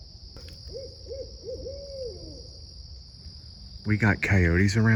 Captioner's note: owls hooting